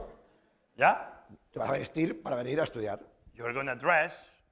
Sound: spanish; speaking spanish

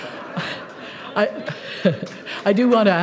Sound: laughter

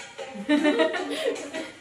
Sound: laughing

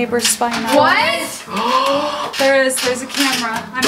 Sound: girls gasp

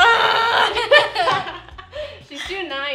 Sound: frustrated grunting; laughter

